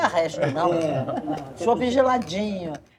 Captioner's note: glasses toasting and laughing